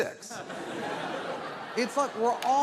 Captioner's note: audience laughs